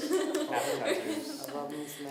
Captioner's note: laughing